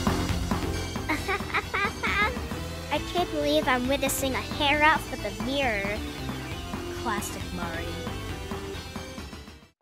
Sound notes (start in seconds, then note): 1.0 laugh